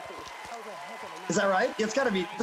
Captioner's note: audience cheers